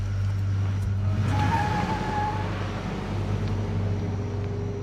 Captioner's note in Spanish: Ruido del vehículo